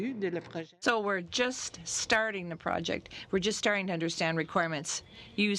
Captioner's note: speaking French